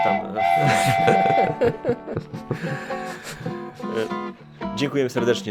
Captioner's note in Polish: śmiech